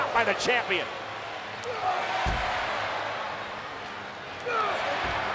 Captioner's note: audience cheering